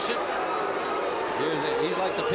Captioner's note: crowd barking